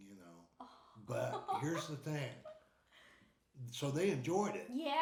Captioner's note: laughing